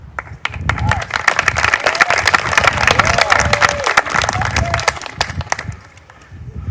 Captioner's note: applause